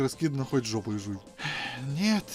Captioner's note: exhales